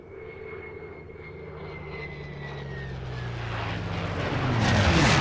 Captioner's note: airplanes roaring